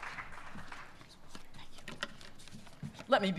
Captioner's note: whispers